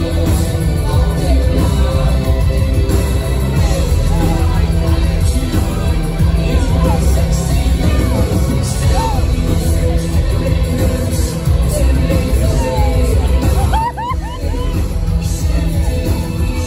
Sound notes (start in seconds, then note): 13.4 excited sounds while my soul left my body